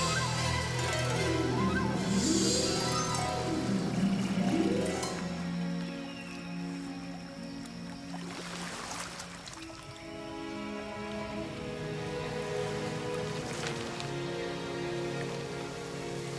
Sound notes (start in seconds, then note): 3.5 rising orchestra; 7.6 ocean splashing